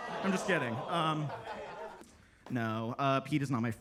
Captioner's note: attendees laughing